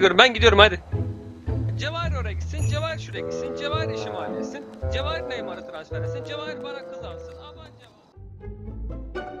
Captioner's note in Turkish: uzaktan konuşma